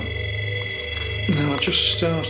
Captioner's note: beeping